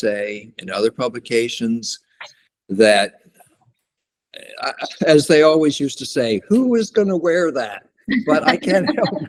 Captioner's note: laughter